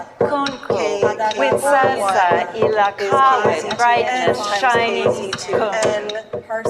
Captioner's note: people speaking altogether indistinctly